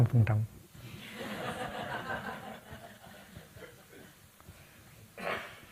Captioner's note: audience laughing